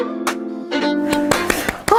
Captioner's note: seal clap